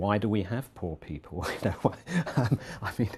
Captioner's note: laugh